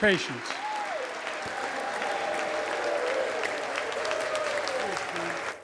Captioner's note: applause